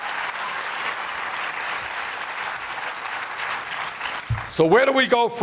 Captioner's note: applause